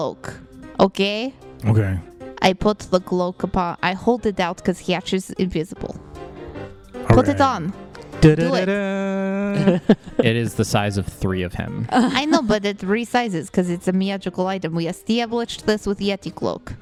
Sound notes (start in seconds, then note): 8.3 da-da-da-da! puzzle solved/secret sound; 11.9 laughter